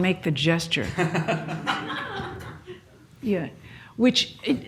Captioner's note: laughs